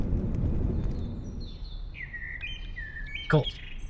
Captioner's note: birds chirping